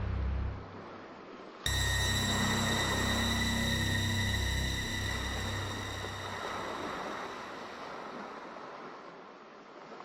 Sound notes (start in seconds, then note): 8.1 train whistling